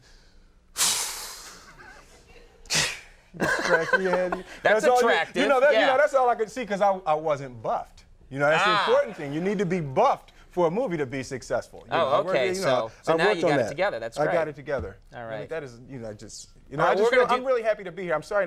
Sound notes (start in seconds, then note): 1.6 sighs; 3.3 Conan laughing